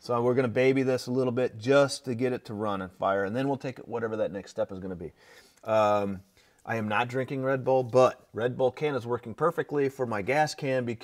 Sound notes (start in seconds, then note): none